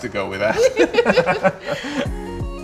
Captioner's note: both laugh; upbeat music